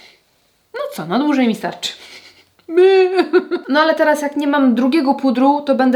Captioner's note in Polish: śmiech